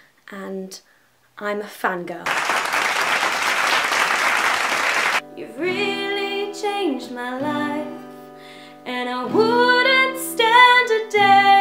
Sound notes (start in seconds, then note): 2.2 applause